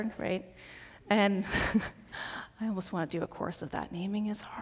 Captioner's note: chuckles